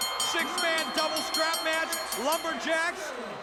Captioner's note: bell ringing